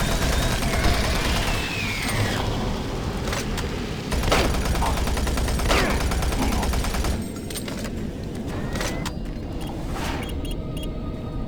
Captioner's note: gunfire